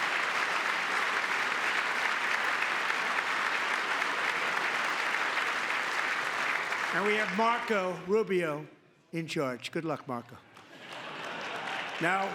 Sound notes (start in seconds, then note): 6.2 applause; 10.6 laughter